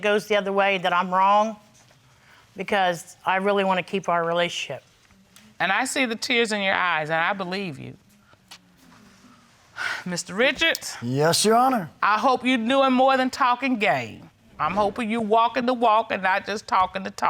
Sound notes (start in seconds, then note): 11.0 exhales